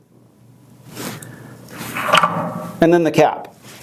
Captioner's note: metal scraping